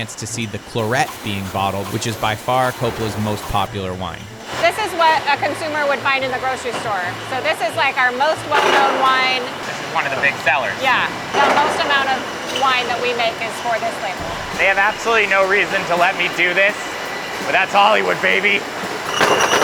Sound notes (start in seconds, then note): 4.0 machines clanking; 19.3 glass clanking